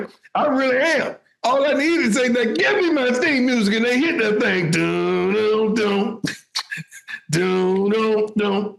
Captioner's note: speaking in foreign language